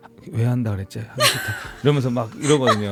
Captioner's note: laughs